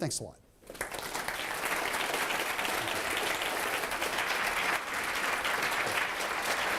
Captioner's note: applause